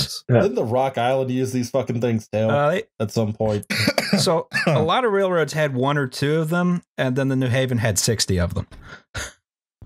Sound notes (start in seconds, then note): 3.4 coughs